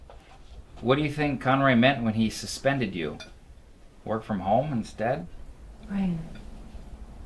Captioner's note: none